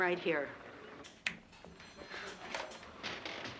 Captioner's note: snaps